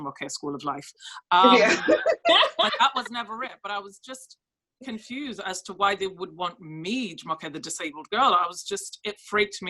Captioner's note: laugh